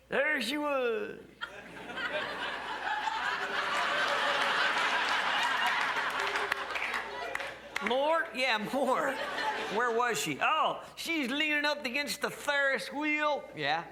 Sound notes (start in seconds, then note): 1.4 crowd laughs